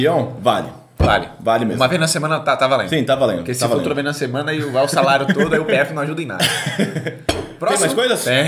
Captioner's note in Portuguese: risos